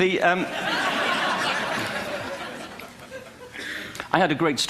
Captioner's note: laughter